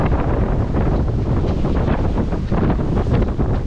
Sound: wind and waves

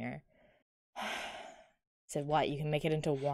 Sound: sighs

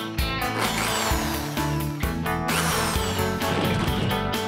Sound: drill Whirs

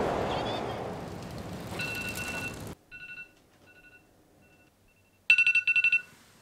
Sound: alarm sounding

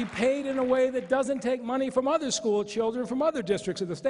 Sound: applause

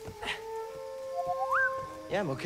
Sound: boop-boop-beep

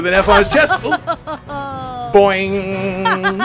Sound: laughing

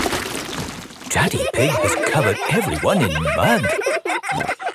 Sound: all laughing

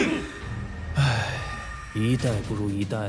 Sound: sigh

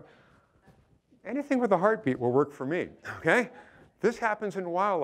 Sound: chuckling

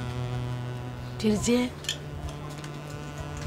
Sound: Amma speaks to her mother in malayalam

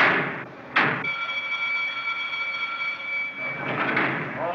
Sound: bell Rings

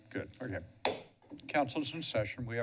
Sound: bangs gavel

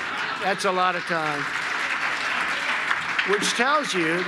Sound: applause

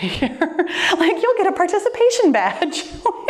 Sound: laughs; laughs

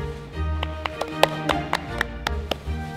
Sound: claps

